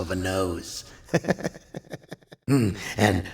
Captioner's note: laughs again